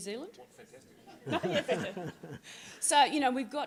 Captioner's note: audience laughing